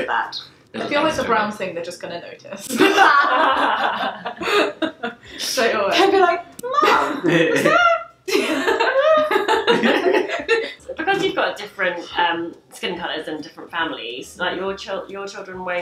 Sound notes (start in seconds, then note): 2.7 laughing; 6.7 laughing; 8.2 squeaking